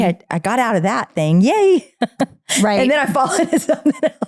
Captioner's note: laughing